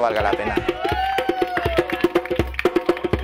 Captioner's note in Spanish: gritos festejando